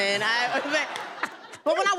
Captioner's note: laughter